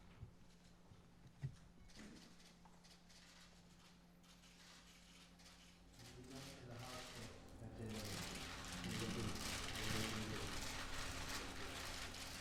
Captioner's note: applause